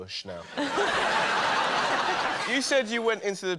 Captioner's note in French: rires